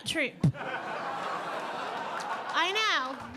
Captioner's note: audience laughing